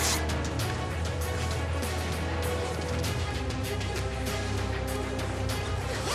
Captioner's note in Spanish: sonido al cerrar el zipper